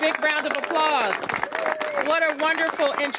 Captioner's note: applause